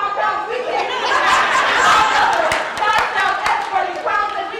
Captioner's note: laugh